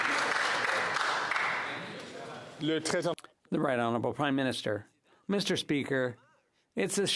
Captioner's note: some Applause